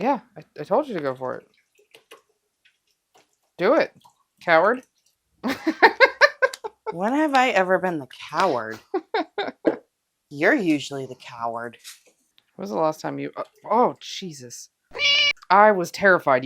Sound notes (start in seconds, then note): 14.9 meow